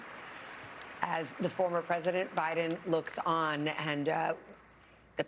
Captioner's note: applause